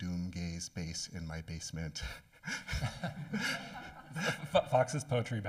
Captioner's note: laughing